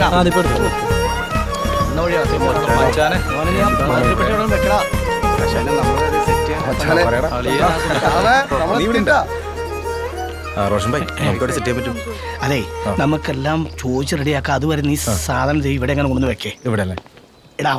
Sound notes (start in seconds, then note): 2.1 crew chattering; 6.9 indistinct chatter